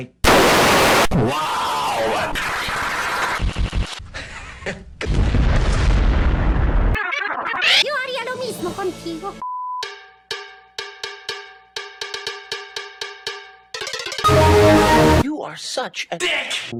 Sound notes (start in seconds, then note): 0.2 loud distorted clap; 1.0 distorted male voice; 2.4 distorted stuttering clapping; 5.0 explosion; 6.8 "aah" stuttering; 7.7 high-pitched voice speaking in Spanish; 9.8 cowbells stuttering; 13.7 cowbells vary wildly in pitch